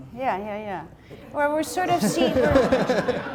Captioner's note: laughter